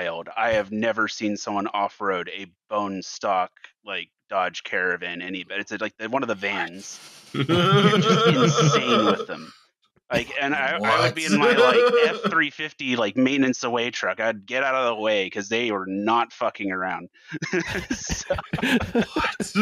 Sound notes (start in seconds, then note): 6.8 whispers; 7.4 laughter; 17.3 laughter; 18.3 half-whisper